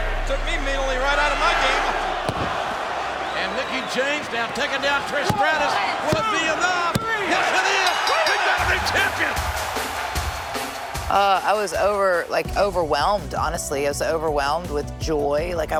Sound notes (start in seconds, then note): 7.8 bell dinging; 11.2 crowd cheering